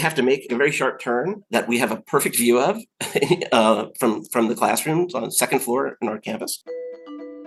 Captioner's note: laughter